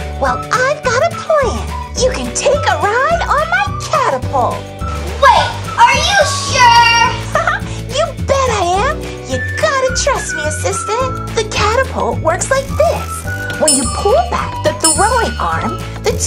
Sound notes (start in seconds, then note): 7.1 laughs